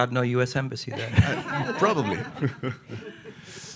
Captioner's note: audience laughing